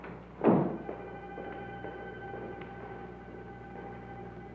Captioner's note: footsteps clacking